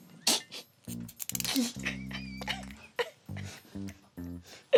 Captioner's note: giggles